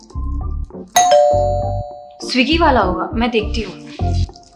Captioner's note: door bell rings